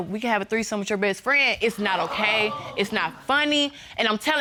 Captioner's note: audience exclaims